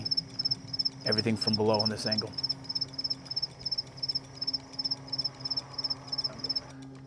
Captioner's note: crickets in brush